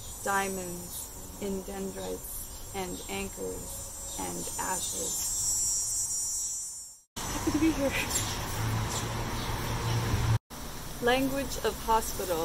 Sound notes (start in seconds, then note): 7.2 laughter